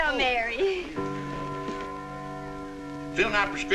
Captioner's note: clock chiming